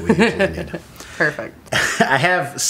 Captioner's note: laughter